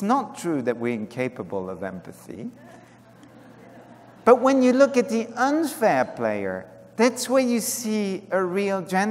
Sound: laughter

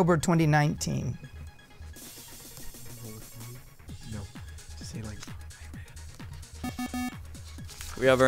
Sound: wispering

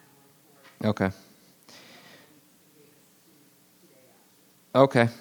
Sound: woman speaks faintly

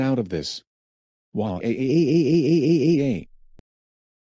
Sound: crying

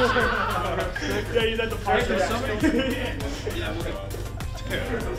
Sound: people laughing

